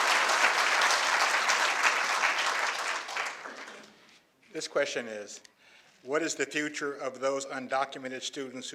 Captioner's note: applause